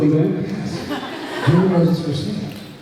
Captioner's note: laughs